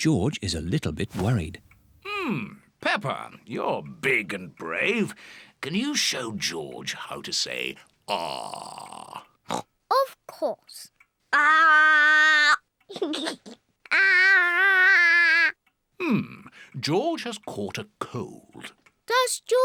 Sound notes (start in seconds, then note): 9.4 oinks; 12.9 giggles